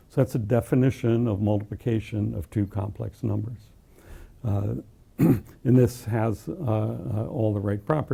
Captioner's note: cough